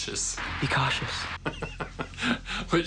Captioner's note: laughing